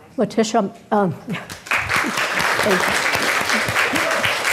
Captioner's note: crowd clapping